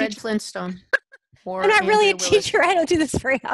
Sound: laughs

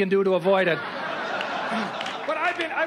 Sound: audience laughs

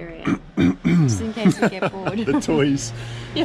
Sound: laughs

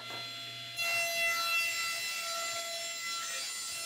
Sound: saw buzzing

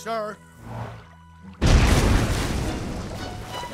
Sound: muffled explosion

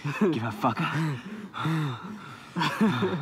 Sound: both pant

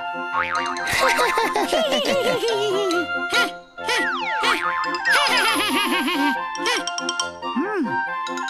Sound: laughing

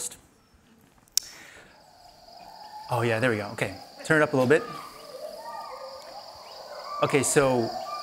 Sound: rainforest sounds

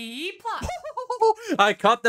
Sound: laughs maniacally

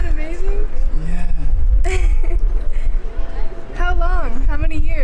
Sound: laughing

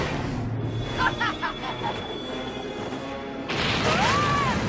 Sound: laughing

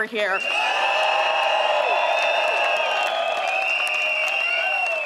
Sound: crowd cheers

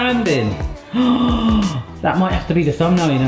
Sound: host gasping

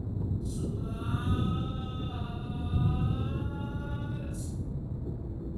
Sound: distant voice

